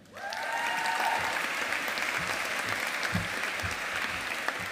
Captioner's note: audience applauding